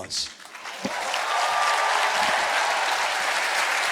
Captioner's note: cheering